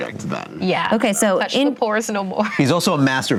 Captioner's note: laughs